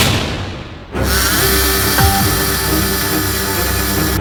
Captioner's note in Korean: 수술방을 울리는 전기드릴 소리